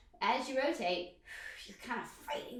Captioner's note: exhales breath